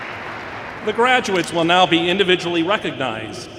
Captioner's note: applause